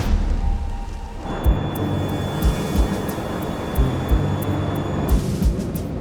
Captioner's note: plane engine roars